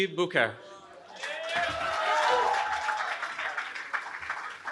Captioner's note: cheering